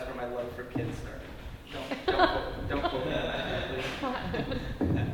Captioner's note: laughs